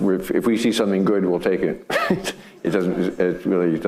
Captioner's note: laughing; audience laughing